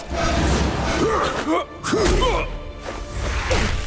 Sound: grunting

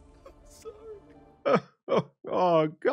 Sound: crying

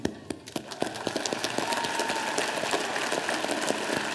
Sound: audience applauding

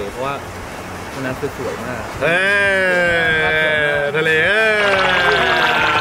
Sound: laugh

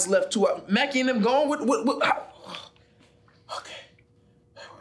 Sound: stuttering

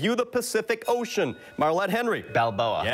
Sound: bell rings

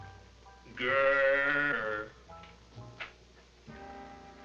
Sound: growling

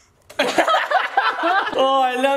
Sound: laughing

